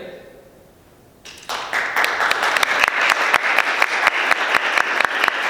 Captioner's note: applause